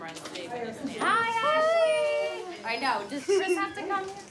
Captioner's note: laughs